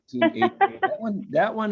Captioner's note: laughs